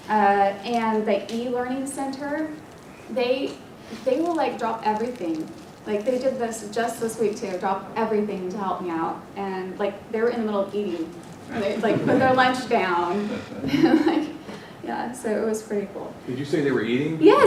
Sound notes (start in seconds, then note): 11.5 laugh